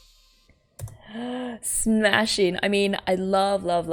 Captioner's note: inhales